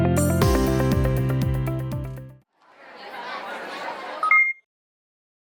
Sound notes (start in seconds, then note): 2.6 crowd chattering; 4.3 logo chiming